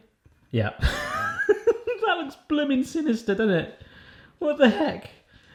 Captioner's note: laughs